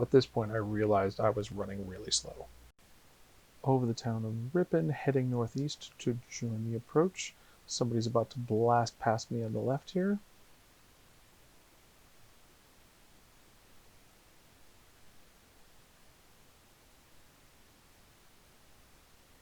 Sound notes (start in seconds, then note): none